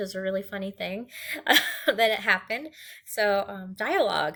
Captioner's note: laughs